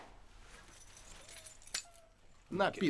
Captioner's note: keys jingling